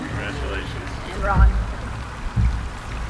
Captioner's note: laughing